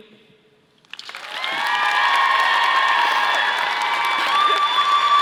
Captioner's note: audience applauding